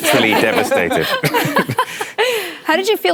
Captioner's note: laughter